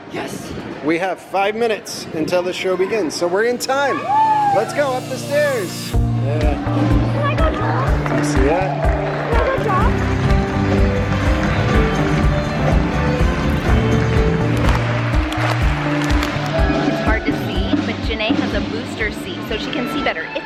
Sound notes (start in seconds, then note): 6.0 upbeat music; 10.8 bright music; 14.4 audience applauding